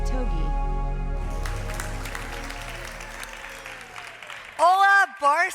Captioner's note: audience clapping